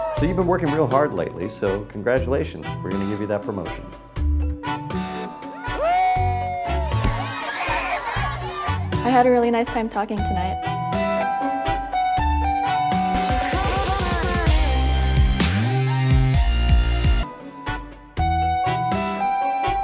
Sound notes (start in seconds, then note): 5.4 group cheers; 7.1 children screaming; 12.8 dubstep plays; 17.3 instrumental music